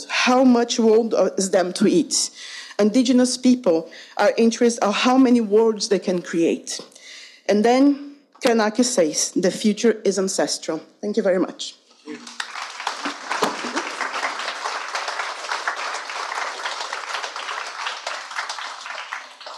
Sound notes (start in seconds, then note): 12.1 audience applauding